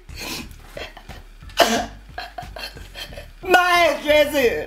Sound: Becca cries

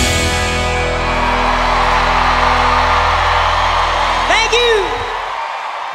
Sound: audience cheering and applauding

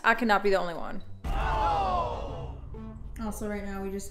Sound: crowd gasps

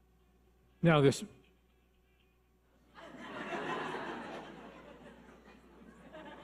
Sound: audience laughing

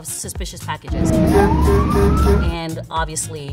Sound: horn honking

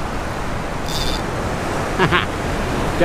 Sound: fishing line straining; laughs

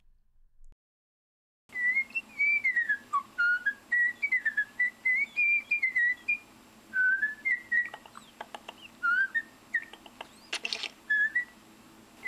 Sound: whistling

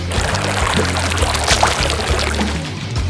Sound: swimming Noises

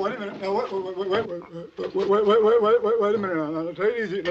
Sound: stammering

